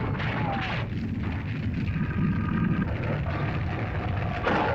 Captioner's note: fire crackles; lizard grumbles; fire crackles; lizard growls